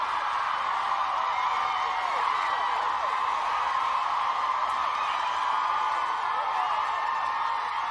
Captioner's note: inmates cheering